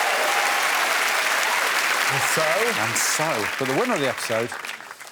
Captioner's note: applause